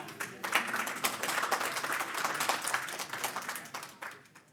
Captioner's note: audience applauding